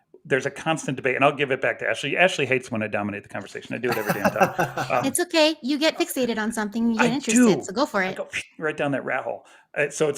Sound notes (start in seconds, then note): 3.8 laughs